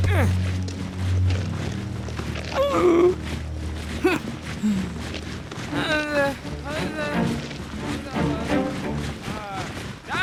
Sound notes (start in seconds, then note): 2.5 groans